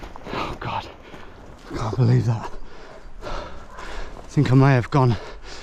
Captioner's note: exhales